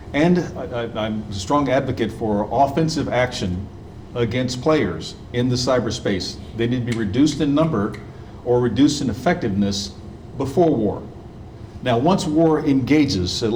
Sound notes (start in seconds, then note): 7.9 snapping fingers